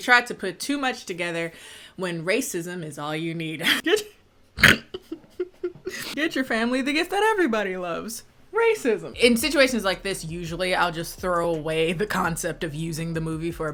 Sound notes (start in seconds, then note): 4.7 laughter